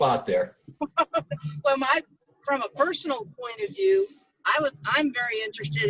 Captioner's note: laughs